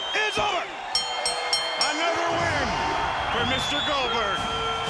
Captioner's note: bell rings